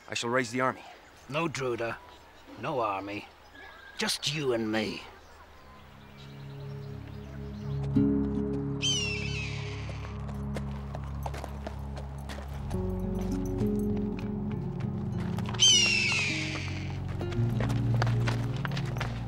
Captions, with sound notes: - I shall raise the army. - No Druda, no army. Just you and me. (gentle music) (bird squawking)